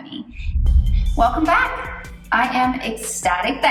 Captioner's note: thunder air whooshing